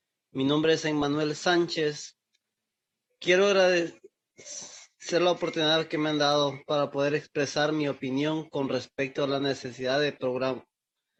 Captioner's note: spanish